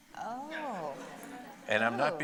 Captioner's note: audience laughing